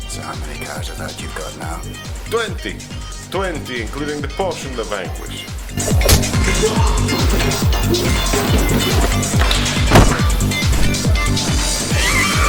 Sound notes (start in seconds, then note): 5.9 punch thudding; 6.5 thug groaning; 10.2 exciting techno beat music; 11.9 women screaming